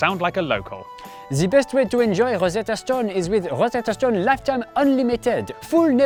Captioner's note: strong French accent